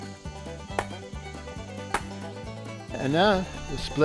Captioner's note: pounding